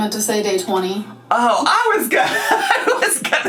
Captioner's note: laughing